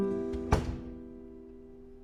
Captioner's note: door closing